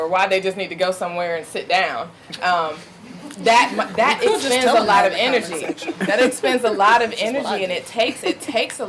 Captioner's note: audience laughing